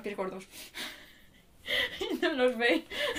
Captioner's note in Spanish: Risas